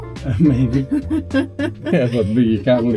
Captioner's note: laugh